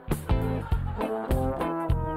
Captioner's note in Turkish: Gülme efekti